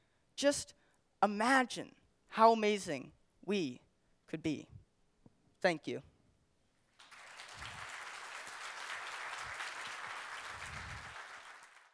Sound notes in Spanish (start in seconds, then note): 6.9 Aplausos